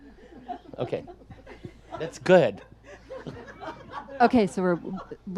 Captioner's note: audience laughs